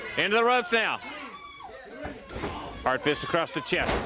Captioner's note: crowd chatter